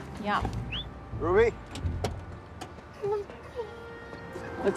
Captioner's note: man whistling